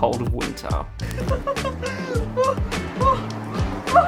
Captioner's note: giggles